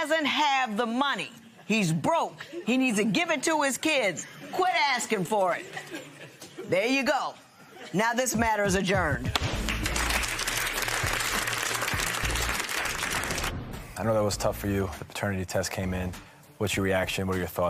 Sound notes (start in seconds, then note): 9.3 applause; 9.4 gavel bangs